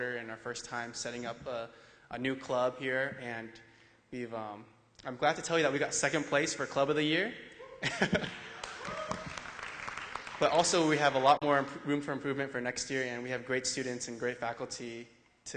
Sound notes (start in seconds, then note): 8.5 applause